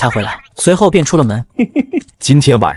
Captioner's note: chuckles